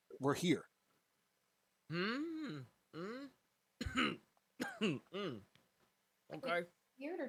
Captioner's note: coughs